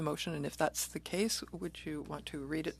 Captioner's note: speaking in French